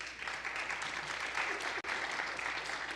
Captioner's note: applause